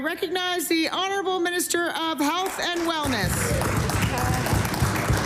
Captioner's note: applause